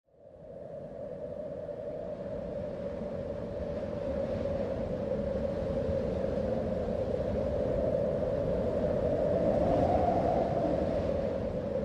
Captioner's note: wind blowing